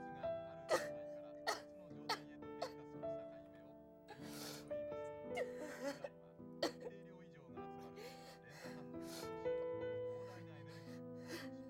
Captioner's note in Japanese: 泣き声